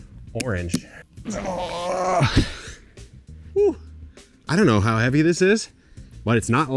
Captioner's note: grunts